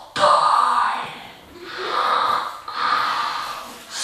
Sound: Darth Vader like breathing

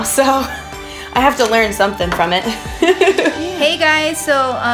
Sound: laughs

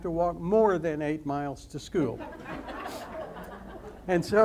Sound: audience laughs

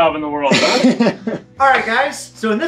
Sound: guy chuckles

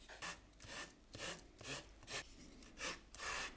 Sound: spatula scratching

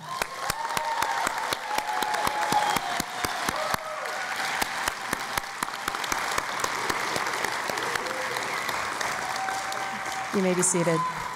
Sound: cheering and Applause

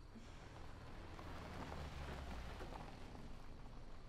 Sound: car tires crunching

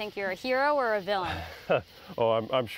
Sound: laughter

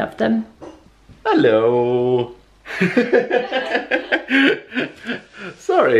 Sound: laughter

